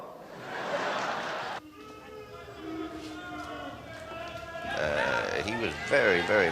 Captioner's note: heckling